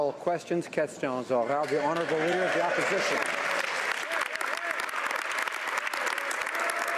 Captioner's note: applause